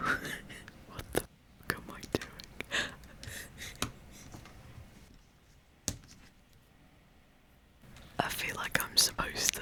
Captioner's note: laughter